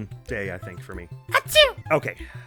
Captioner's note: mimicking Madeline